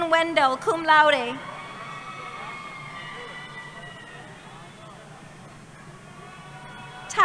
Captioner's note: cheering